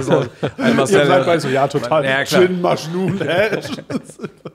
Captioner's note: lacht